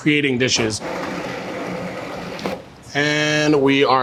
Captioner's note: blender whirring